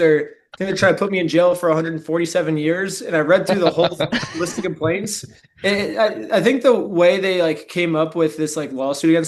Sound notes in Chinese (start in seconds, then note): 3.4 笑声